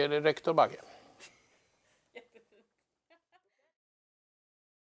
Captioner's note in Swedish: Skratt utanför bild